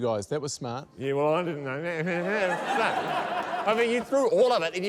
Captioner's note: laughter